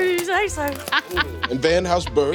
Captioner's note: glass crunching